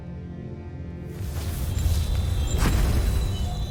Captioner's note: infernal whoosh-crackle, enchanting chimes